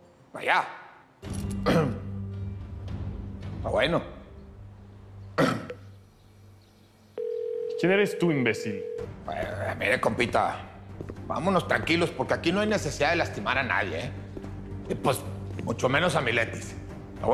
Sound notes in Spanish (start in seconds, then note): 1.6 Carraspea; 5.2 Tono de llamada; 5.4 Carraspea